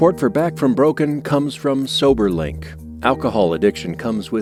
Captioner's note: audio from sports broadcast